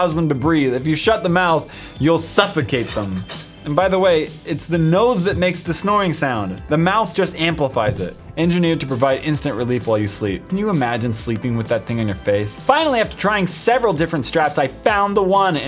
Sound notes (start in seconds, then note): none